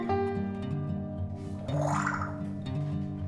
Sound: water sound

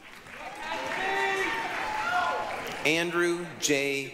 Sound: applause, cheering

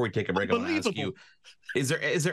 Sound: chuckles

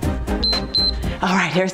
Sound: timer beeps

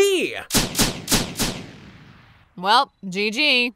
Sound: gun shots firing

